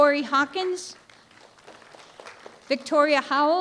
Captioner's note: applause